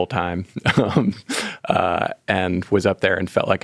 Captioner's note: laughing